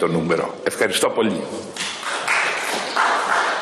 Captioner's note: applause